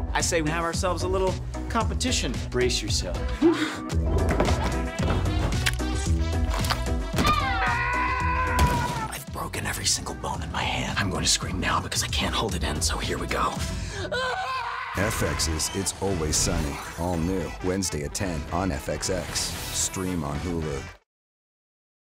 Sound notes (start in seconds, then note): 14.1 screams